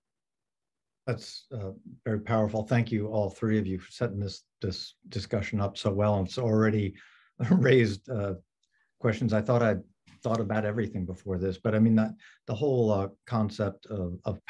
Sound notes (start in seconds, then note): 7.4 chuckles